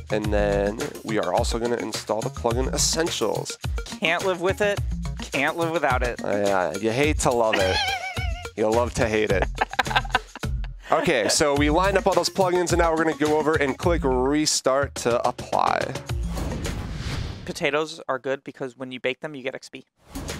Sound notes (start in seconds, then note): 9.0 laughter